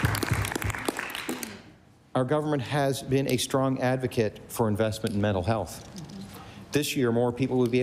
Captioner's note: applause